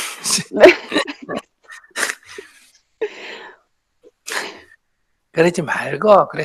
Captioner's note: /Questioner Laughter